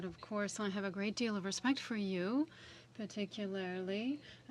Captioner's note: speaking French